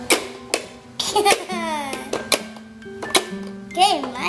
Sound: laughing

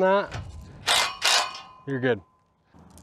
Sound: drill whirs

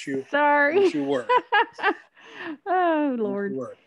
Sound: laughs

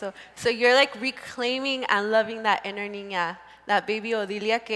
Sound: none

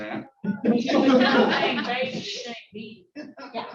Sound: laughter

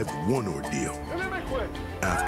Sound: shouting

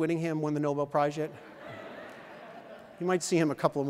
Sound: laughter

